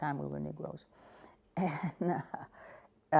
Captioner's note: laughter